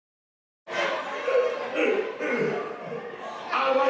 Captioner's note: laughter